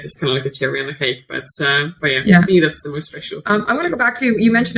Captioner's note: faintly speaks